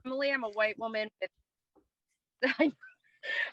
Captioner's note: laughing